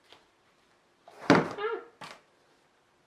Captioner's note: book falls